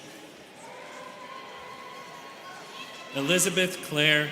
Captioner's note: students cheering